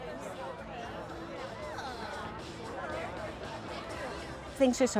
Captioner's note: sounds of crowd interacting with staff